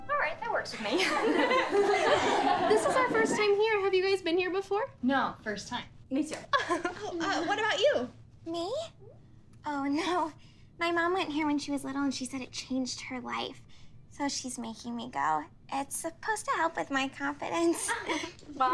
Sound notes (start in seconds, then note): 0.9 girls laughing